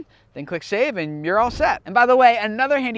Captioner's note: air whooshing